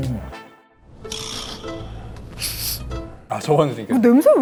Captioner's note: sniffing